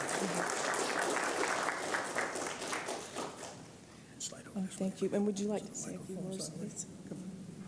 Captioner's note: applause